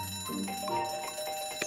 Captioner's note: bell ringing